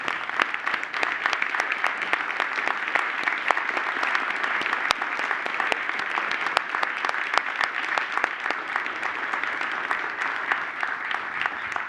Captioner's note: applause